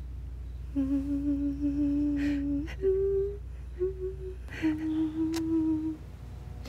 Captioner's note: tarareo